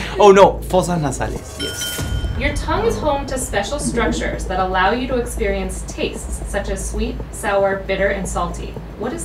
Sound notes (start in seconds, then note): 1.1 speaking in foreign language; 1.6 high-pitched bell dings